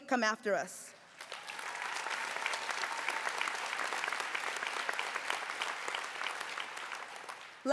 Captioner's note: applause